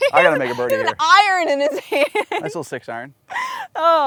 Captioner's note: laughs; laughs